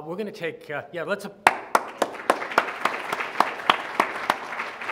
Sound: loud clapping

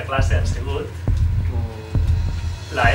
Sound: heartbeat

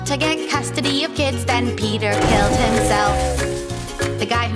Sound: train Whistle

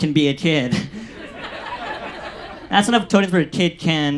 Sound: audience laughs

